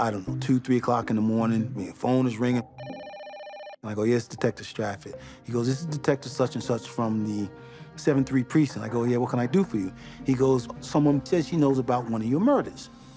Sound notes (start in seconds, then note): 2.7 phone rings